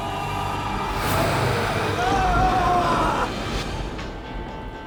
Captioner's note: growling; Keith screaming; upbeat music